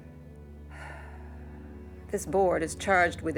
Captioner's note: sighs